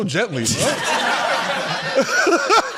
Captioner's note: laughter